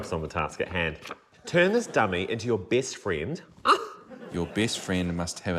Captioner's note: exclaims